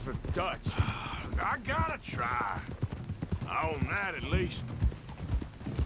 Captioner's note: sighs